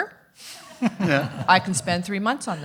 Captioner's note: everyone laughing